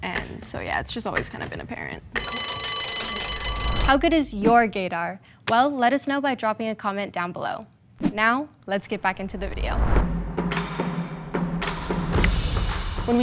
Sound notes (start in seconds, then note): 2.2 bell ringing; 10.1 smooth music